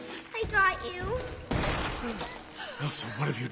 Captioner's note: banging door